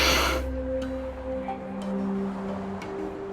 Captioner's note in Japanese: 鼻息